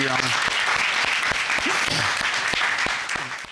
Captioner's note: applause